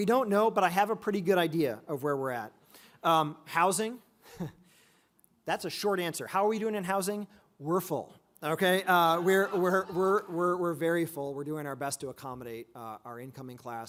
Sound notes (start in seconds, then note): 4.2 chuckles; 8.8 audience laughs